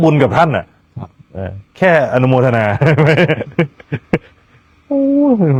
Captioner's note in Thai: เสียงหัวเราะ